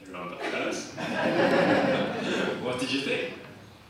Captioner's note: audience laughs